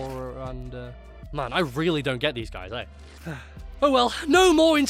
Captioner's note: sigh